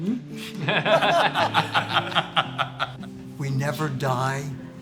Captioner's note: laughing